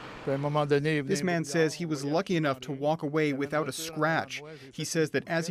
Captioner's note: speaking French